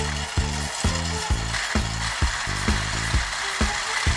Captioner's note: motor running; other motor running